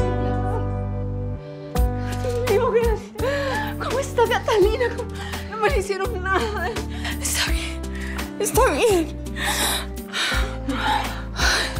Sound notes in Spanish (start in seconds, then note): 4.2 Sollozos